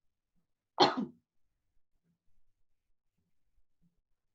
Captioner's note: coughs